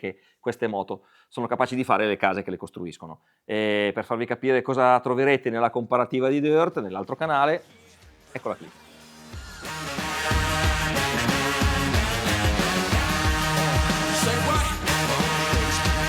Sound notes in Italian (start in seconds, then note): 12.9 Applauso